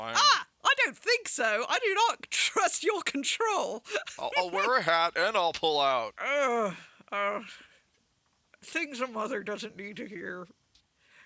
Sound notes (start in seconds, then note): 6.2 sighs